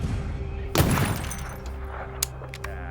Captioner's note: gun shot; gun clicks